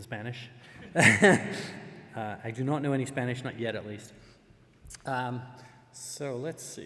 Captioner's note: laugh